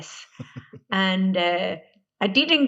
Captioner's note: laughing